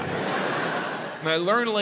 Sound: audience laughs

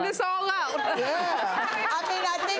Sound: audience laughs

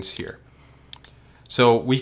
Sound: mouse clicks

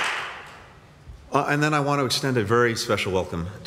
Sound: applause

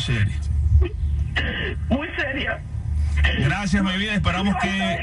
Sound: sobbing continues

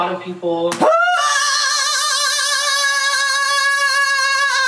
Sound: screaming

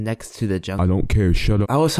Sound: me in a deep manly voice

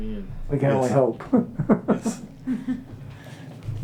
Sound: laughing

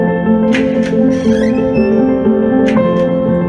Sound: door slams

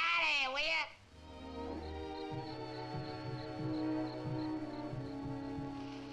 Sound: insects chirping; soft orchestral music

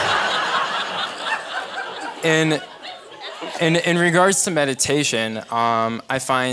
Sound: laugh

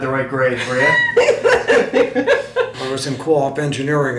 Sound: laughing

